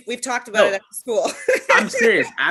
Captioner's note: laughter